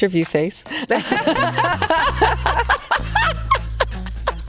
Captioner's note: both laughing